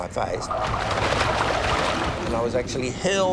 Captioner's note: water splashes